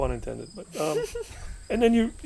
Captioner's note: laughing